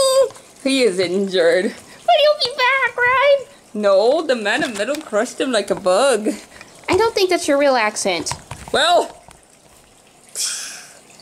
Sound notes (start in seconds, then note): 8.9 hisses